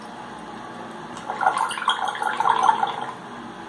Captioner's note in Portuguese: sound of water